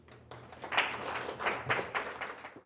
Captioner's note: audience applauds